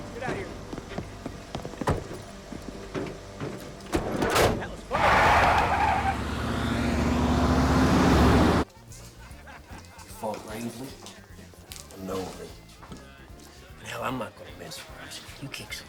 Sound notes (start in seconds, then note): 3.8 doors thudding; 4.7 tires screeching; 7.4 van revving